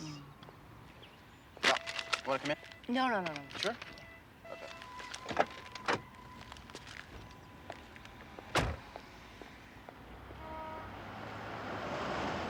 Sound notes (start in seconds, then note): 1.8 car beeping